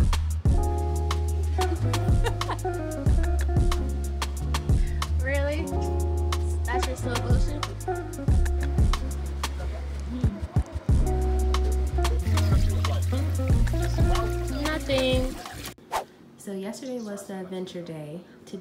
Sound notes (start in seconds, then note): 1.9 laughs